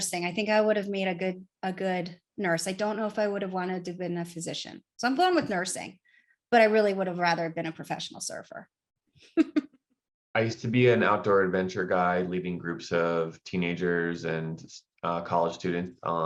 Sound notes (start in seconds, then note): 9.4 laughs